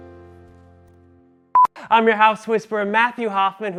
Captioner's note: electronic beep